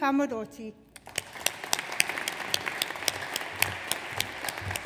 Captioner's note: audience applauds